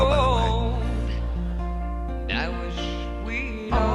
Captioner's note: audience laughs